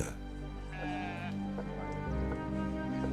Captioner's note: sheep bleats